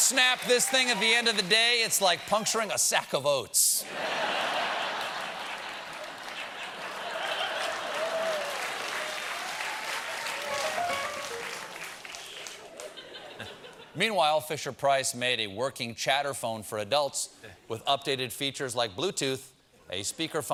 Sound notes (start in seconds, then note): 4.8 applause; 6.1 laughter